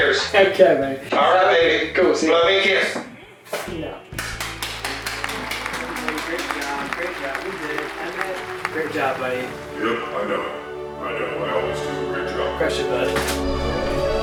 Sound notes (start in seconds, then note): 4.1 applause